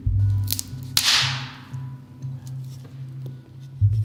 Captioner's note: loud cracking